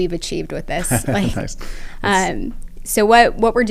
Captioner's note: laugh